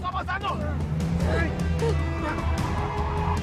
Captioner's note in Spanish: Gritos